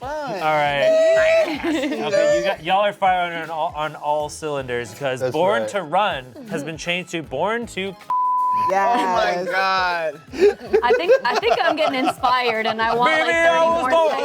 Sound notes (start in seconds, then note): 8.1 beep; 10.3 laughs